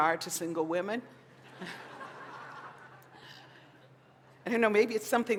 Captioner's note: laughter